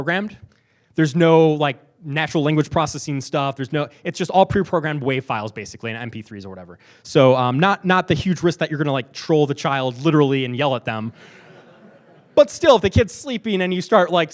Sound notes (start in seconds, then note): 11.2 laughing